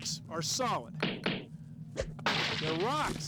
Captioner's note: tapping